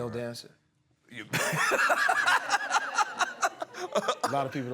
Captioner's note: laughter